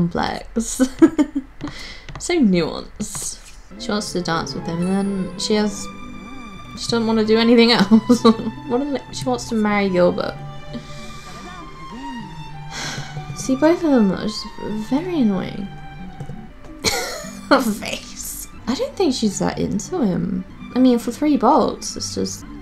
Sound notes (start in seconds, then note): 0.8 giggles; 3.3 laughs; 7.9 laughs; 10.4 sighs; 16.8 laughs